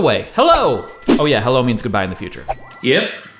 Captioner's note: futuristic noises